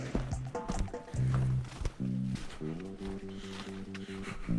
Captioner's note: footsteps crunching